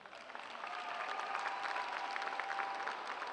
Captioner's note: applause